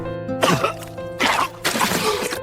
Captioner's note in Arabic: سعال سعال سعال